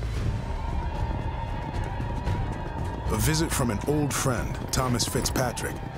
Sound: war cries

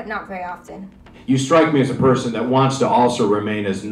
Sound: radio Announcer

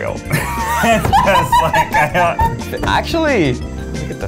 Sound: both laugh

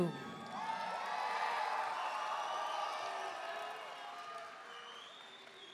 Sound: audience cheering and applauding

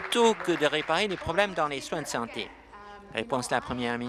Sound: applause

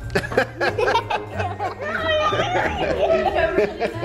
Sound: giggling

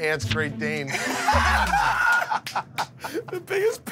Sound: laughter

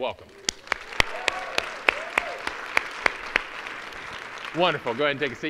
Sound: audience applauding

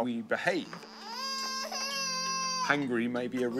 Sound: baby cring

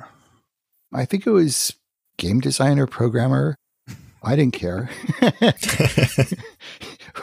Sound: laughs

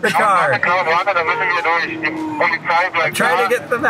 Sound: radio operator speaking in Italian

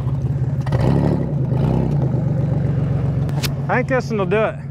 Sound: vehicle engine roar

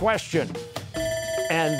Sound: bell ringing

